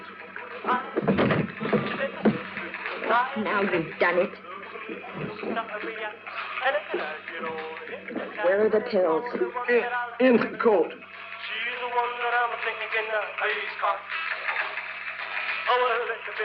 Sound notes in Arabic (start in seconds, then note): 5.2 أغنية على الراديو - يستمر روكابيلي; 9.7 يلهث; 11.6 أغنية على الراديو - يستمر روكابيلي